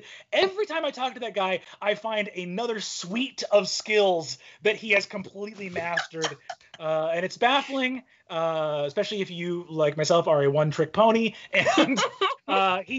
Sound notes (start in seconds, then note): 5.6 laughing; 11.5 laughing